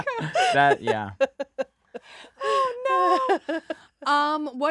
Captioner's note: laughing